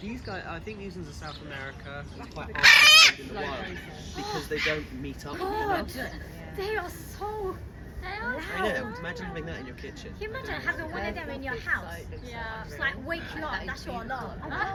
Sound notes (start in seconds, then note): 2.5 macaw squawks very loudly!